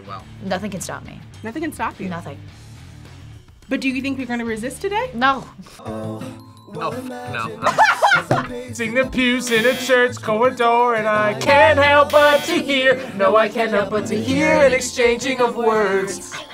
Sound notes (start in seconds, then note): 7.5 laughs; 9.3 buzzer; 11.9 buzzer; 16.4 whispers